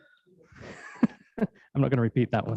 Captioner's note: laughs